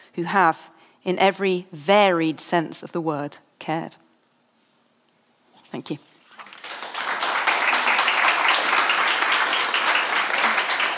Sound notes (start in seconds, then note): 6.4 audience applauds